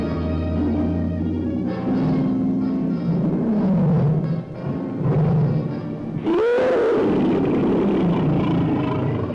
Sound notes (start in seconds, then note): 3.7 lion roars; 6.2 lion screeches